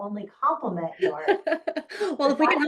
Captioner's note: laughing